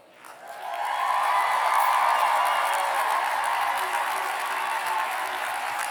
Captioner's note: cheers and applause